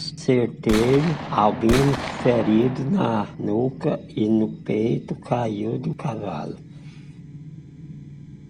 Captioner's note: sound of gunshots